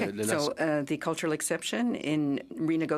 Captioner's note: speaking in French